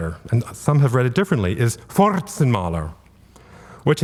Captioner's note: speaking German